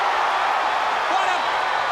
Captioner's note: crowd cheering